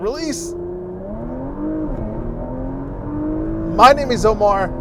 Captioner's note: engine revving